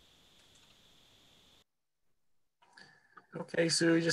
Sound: clicking

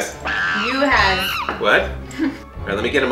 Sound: monkey screaming

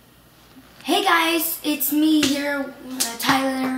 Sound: clapping

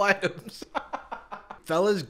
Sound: hoots; laughs

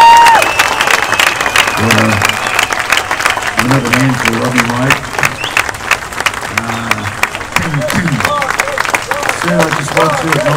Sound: applause

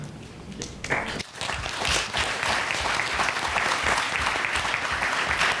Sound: applause

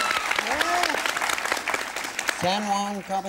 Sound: applause

